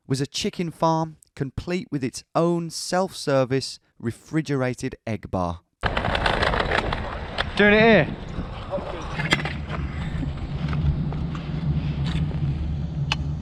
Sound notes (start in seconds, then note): 5.8 scooter wheel clacking; 9.2 metal handle slams on pavement